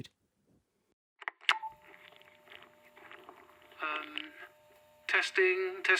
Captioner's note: button click. slight static buzz